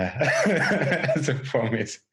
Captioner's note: laughing